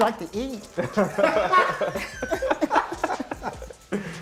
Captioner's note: laughter